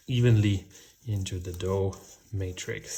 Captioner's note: none